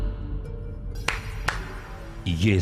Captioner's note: claps